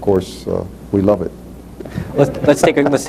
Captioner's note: laughter